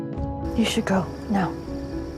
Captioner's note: voiceover